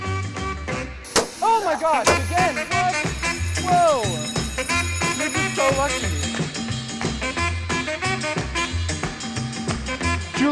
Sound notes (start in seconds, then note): 1.1 balloon popping; 4.1 bells ringing